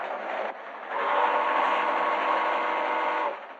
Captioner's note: train horn blaring